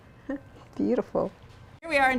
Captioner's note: chuckles